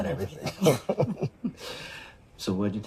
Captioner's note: laughs